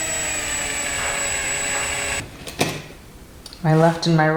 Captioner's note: drill whirs